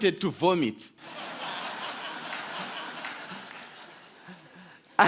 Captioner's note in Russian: Смех